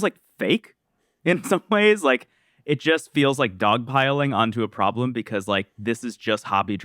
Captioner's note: laughs